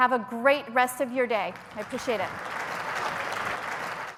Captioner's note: applause